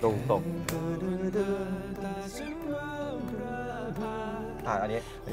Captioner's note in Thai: เสียงฮัมเพลง